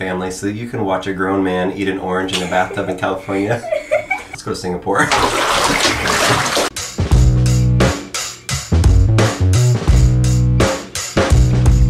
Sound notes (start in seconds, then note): 3.6 laughs; 6.7 slow electronic music